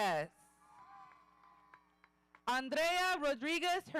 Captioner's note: audience cheering